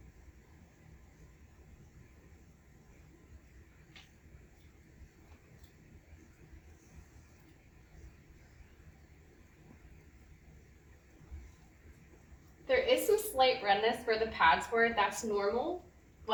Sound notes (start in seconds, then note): 2.6 silence